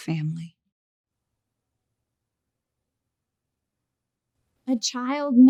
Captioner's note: silence